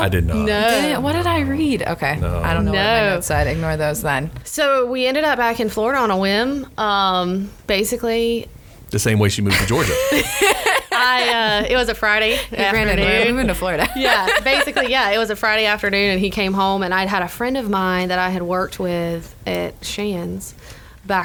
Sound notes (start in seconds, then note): 9.5 women laughing; 12.2 laughs